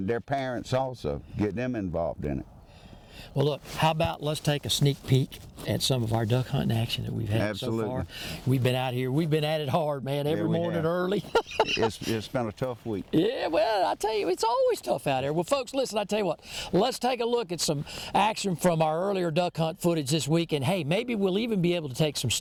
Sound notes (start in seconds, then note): 9.8 laughs